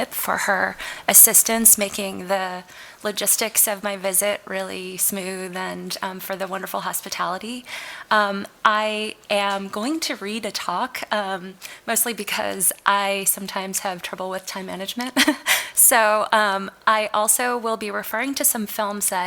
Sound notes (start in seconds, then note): 15.4 laughs